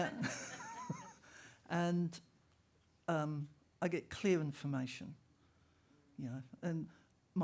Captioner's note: laughter